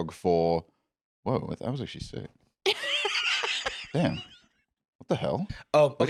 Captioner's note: laughs